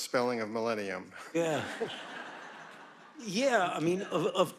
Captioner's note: audience laughing